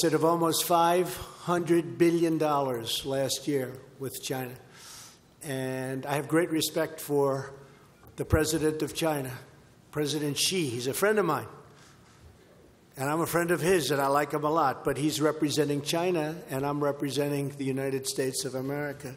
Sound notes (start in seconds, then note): none